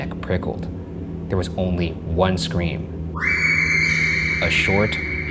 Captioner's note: screaming